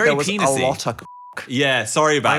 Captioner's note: beep